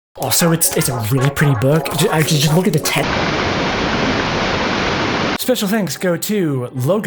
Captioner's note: interrupted by TV static